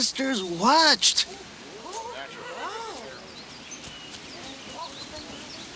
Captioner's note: congregation gasp and murmur